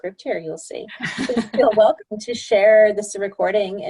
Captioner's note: laughter